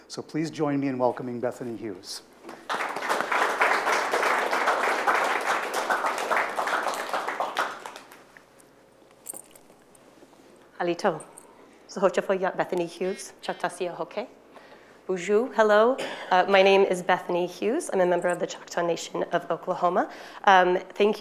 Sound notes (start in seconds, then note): 2.6 attendees applauding; 11.0 speaks foreign language